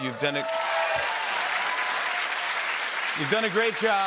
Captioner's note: cheers and applause